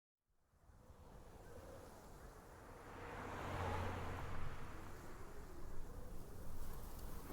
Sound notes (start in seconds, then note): 2.7 car whooshes